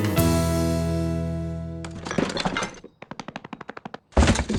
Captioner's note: patter of feet running back and forth